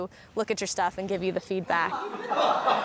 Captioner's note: laughter